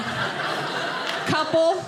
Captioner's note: audience laughing